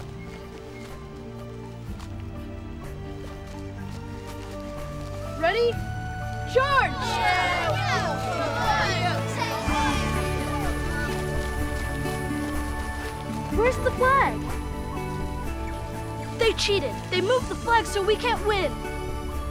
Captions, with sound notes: - Ready? Charge! (group cheering) Where's the flag? They cheated! They moved the flag so we can't win.